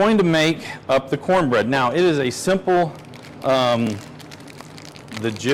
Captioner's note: plastic crackling